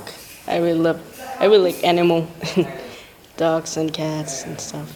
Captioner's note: laughs